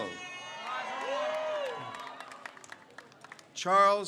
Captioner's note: crowd cheers